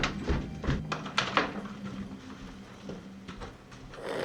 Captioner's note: door clicking; Marshall snoring